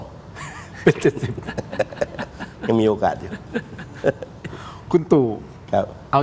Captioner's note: laughter